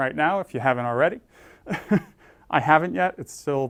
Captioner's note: laugh